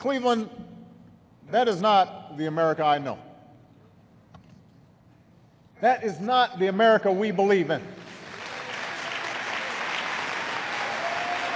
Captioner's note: applause